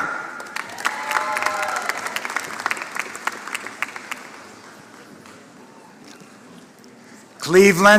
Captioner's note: applause